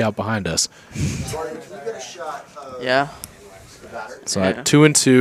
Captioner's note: chuckles